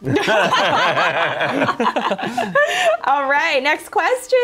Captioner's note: laughter